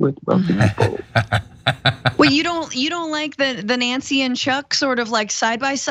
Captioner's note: laugh